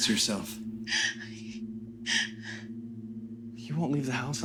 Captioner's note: Ally crying